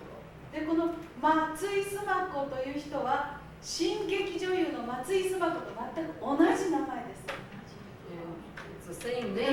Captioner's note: speaking Japanes